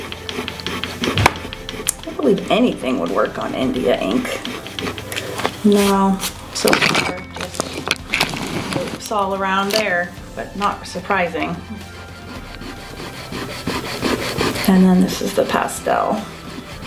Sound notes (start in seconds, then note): 0.0 eraser rubbing; 6.6 faintly speaks; 11.8 eraser rubbing